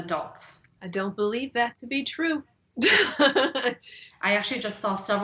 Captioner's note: laughs